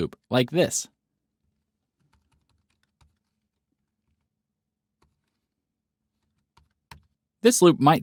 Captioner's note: typing